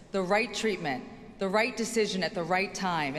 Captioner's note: none